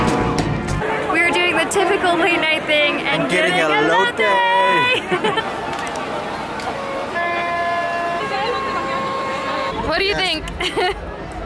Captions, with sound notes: We're doing with typically late-night thing and getting elote! [Laughter] What do you think?